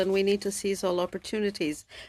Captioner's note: speaking French